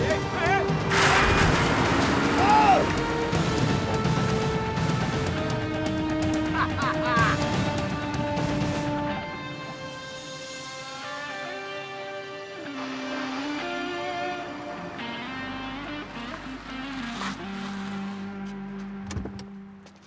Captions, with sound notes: - Hey, hey, hey! Whoa! (Jeff laughs) (suspenseful music) (water splashing)